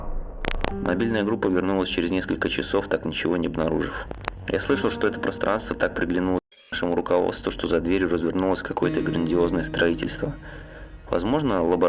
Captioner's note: static